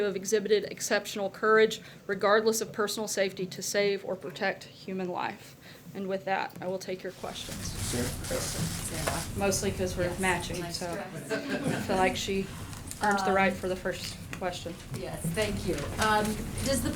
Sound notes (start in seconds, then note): 11.0 laughter